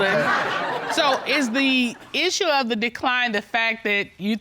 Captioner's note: audience laughing